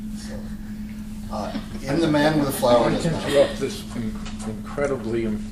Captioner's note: laughter